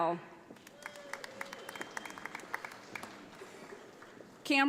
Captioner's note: audience applauding